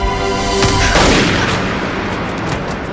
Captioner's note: gunshot